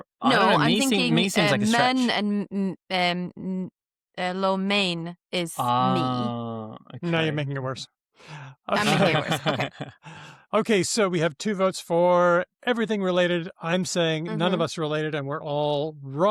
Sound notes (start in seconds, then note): 8.6 laughs